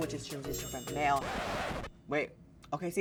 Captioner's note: record scratching